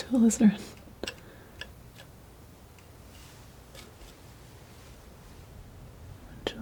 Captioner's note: scratching